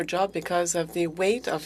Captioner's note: speaking French